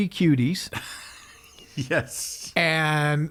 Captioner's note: laughs